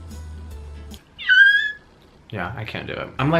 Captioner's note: screeches